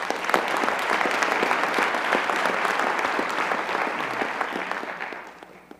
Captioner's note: applause